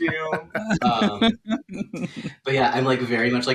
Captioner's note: laughter